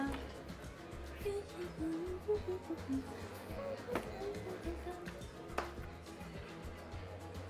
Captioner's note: humming